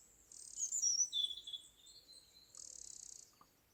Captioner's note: birdsong